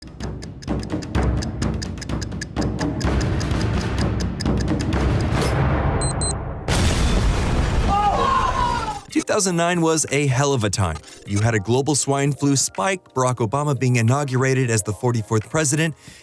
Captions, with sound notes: [TICKING] [DIGITAL TONE] [EXPLOSION] Oh. 2009 was a hell of a time. You had a global swine flu spike, Barack Obama being inaugurated as the 44th President,